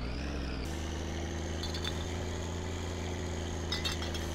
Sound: engine running normally

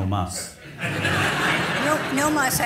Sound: audience laughs

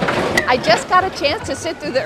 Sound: rattling, objects falling, unintelligible exclamations

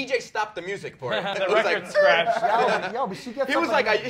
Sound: disk scratching

